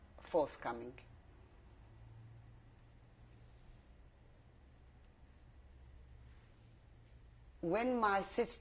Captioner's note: pauses for 7 seconds